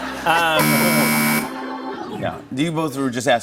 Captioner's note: laughter; buzzer